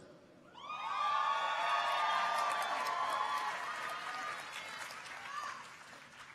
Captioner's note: audience cheers; audience applauds